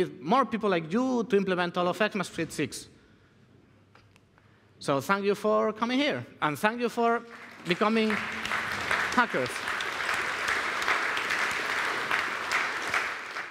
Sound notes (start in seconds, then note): 7.1 applause